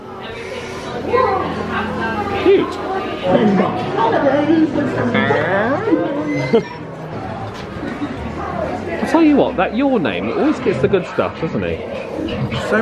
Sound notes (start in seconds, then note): 0.1 guests conversing; 6.2 makes door creak noise